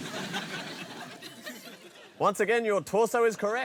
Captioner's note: laughter